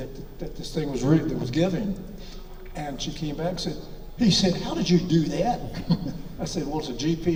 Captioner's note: chuckles